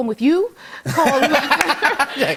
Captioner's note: laughter